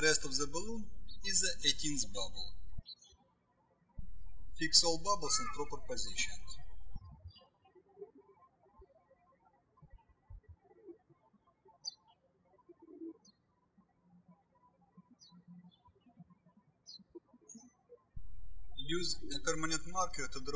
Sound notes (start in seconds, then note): 7.2 birds chirping